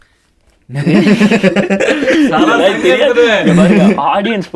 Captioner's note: group laughs